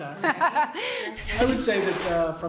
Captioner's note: laughing